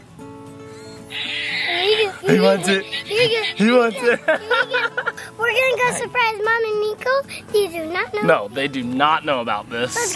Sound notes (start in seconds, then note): 0.2 balloon squeaking; 5.0 laughs